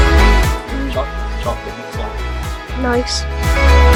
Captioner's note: speaking faintly